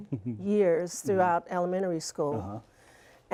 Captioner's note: laughter